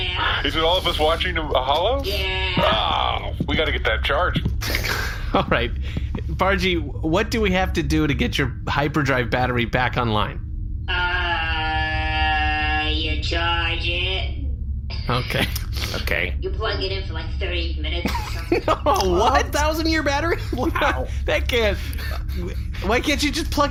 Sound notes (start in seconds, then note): 11.5 duh DOY voice